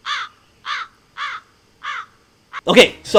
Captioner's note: crow screeching